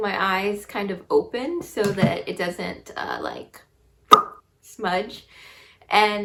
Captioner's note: mouth pops